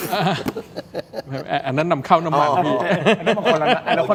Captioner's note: laughs